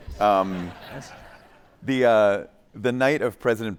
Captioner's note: attendees laughing